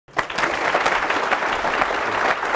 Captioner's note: applause